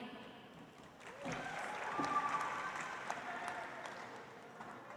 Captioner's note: audience applauds